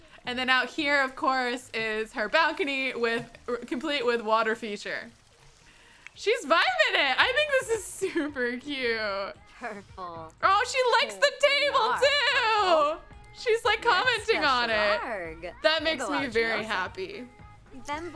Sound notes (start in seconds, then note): 12.9 Ariel speaks in Simlish